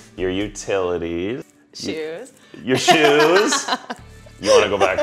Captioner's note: laughter